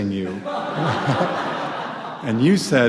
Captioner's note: audience laughs